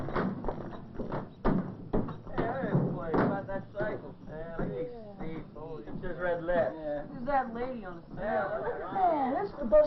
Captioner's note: chattering